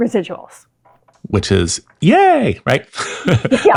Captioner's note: laughs